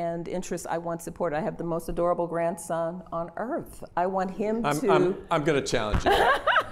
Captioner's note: laughter